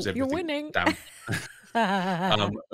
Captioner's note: laughs